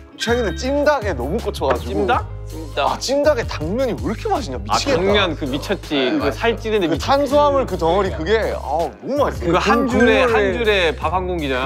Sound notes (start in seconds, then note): 6.3 mouth waters